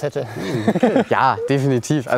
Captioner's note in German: Lachen